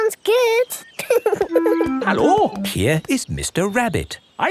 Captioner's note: laughing